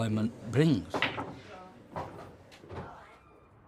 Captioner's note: pool balls clack